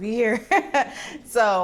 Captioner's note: laughter